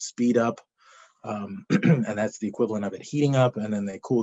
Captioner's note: coughs